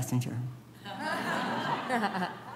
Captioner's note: laughing